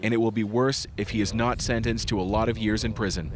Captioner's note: foreign language